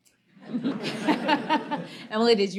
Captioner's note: laughter